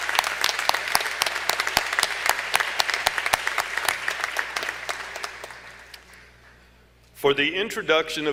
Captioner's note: applause